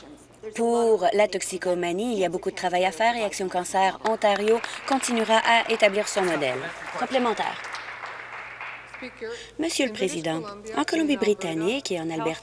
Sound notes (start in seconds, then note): 7.8 applause